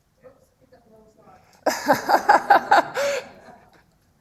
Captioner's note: laughs